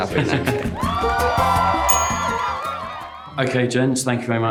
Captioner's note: audience cheers